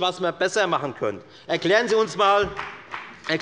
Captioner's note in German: Beifall des Abg